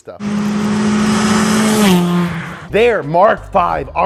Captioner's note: engine roaring